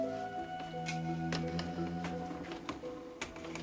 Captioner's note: clicking and creaking